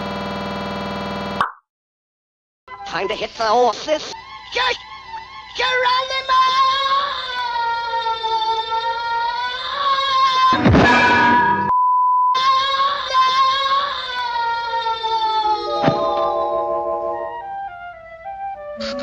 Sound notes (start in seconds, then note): 11.6 bars and tone